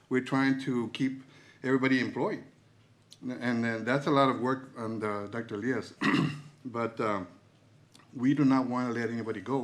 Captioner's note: clears throat